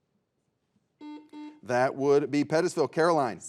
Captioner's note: buzzer beeps